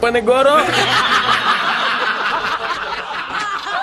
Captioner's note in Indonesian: tertawa